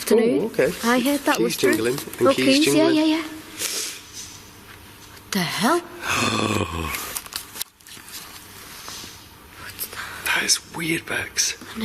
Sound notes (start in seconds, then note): 6.1 draws in deep breath